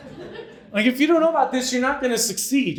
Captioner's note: audience laughing